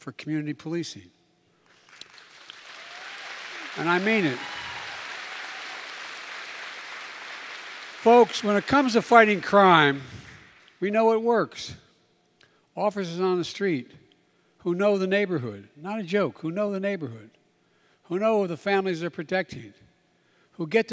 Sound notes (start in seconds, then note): 8.1 applause